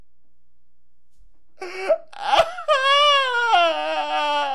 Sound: crying

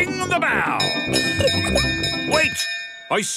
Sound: bell chimes

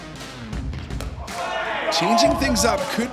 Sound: cheers

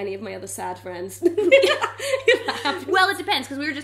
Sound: laughing

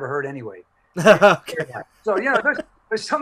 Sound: laughing

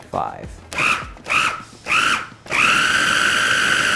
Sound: whirring

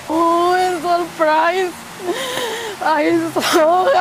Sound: speech muffled by sobs

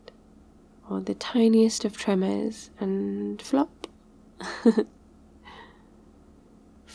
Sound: laughs

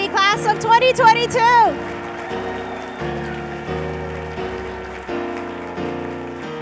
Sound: cheers and applause

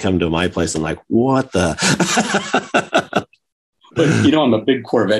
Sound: chuckles

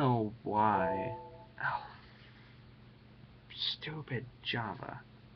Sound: computer chimes

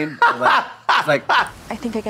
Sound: Trixie chuckling

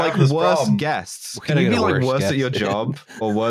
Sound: chuckles

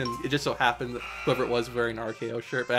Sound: countdown timer buzzes

